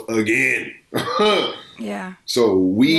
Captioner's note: laughing